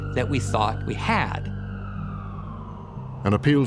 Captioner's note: siren wailing